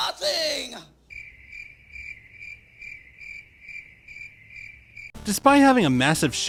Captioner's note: crickets